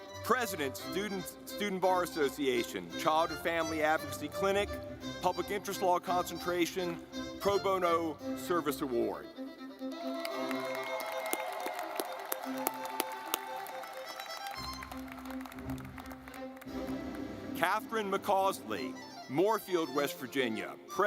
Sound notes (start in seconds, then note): 9.3 lively music; 9.9 audience clapping